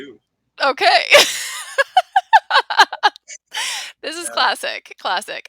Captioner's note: laughing